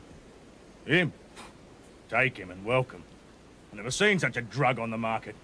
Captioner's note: snorts